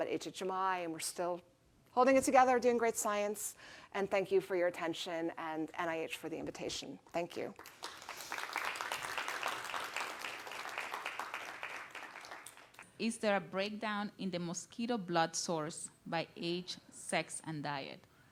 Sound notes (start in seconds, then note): 9.8 applause